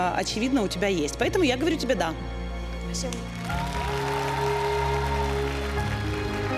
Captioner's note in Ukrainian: оплески